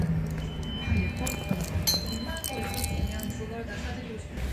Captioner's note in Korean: 하차벨 소리